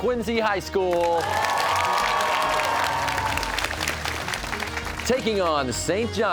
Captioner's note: cheers and applause